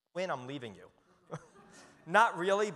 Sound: audience chuckles

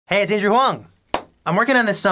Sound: clap

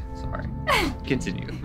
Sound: laughs

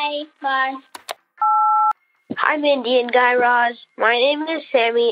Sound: soundbite of beep

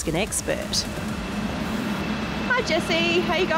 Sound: machines whirr

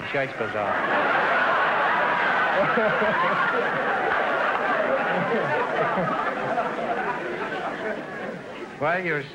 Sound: audience laughter

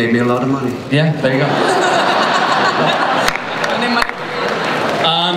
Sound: laughter

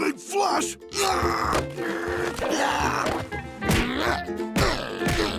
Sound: grunting

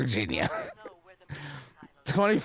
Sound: laughing

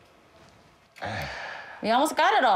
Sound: huffing

